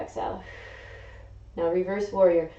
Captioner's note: exhaling